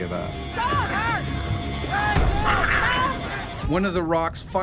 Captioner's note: shouting; voiceover